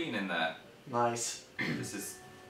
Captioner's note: clears throat